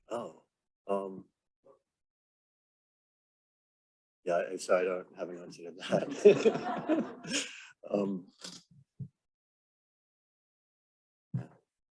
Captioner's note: laughter